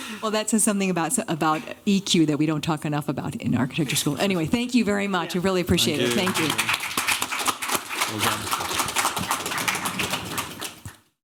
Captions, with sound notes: Well, that says something about EQ that we don't talk enough about in architecture school. Anyway, thank you very much. I really appreciate it. Thank you. Thank you. [APPLAUSE] Well done.